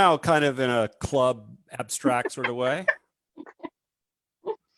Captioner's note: laughs